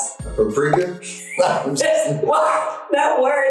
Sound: laughing

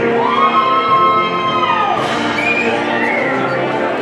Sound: audience cheering

